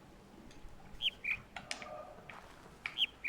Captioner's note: bird chirps ˥ ˩; bird chirps ˥ ˩